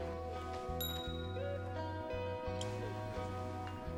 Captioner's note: sound from computer of getting text messages